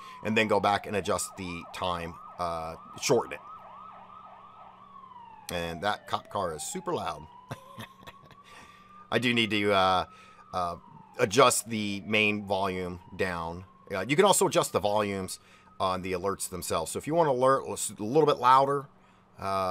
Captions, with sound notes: and then go back and adjust the time, uh, shorten it. And that cop car is super loud. (chuckles) I do need to adjust the main volume down. You can also adjust the volumes on the alerts themselves. So if you want an alert that's a little bit louder,